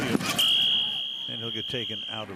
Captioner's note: whistle